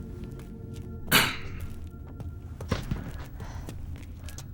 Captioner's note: gentle music; throat clearing